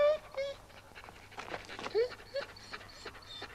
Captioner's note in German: Dojan winselt